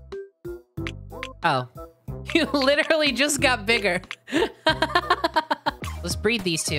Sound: laughing

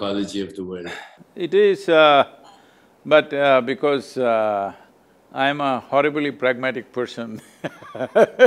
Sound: laughs

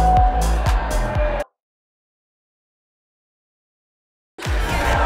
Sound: no sound

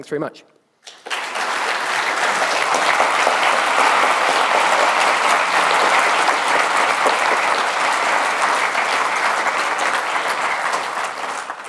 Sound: applause

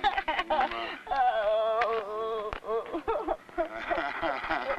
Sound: laughing

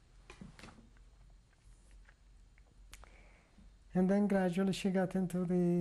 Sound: pauses for 3 seconds

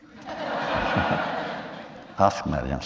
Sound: laughter

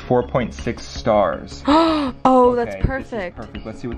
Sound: gasps

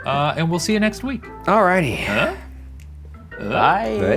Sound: exhales

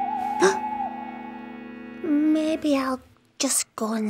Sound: owl hoots

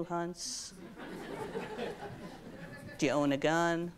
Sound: audience laughs

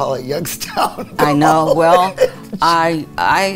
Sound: laughs loudly

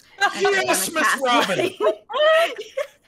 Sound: laughing

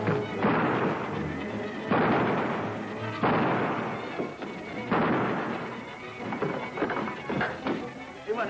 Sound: gun fires

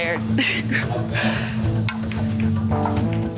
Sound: laughs

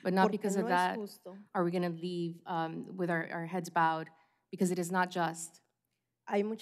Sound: speaking spanish

